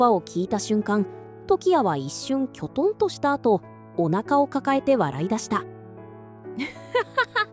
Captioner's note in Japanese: わら